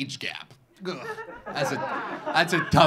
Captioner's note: audience laughing